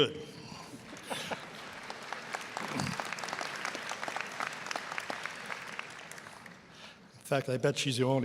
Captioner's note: applause